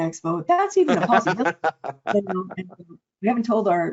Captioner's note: chuckling; audio distortion